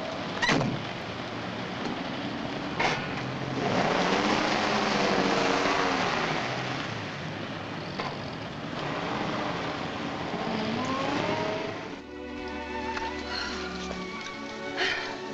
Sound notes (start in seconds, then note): 0.4 car door bangs shut; 2.8 motor revving; 11.2 dramatic music